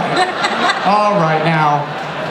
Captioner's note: laughter